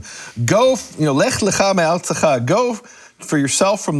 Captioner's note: speaking in foreign language